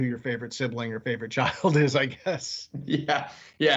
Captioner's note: laughing